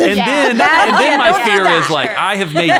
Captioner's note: ladies laughing